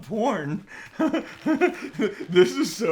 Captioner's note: chuckles